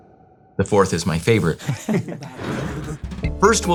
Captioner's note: laughs